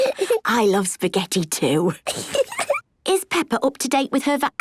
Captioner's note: laughs